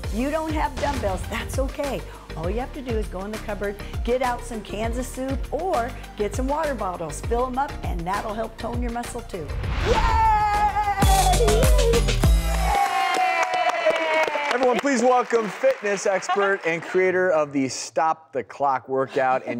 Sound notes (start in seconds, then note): 10.9 upbeat music; 11.1 audience applauding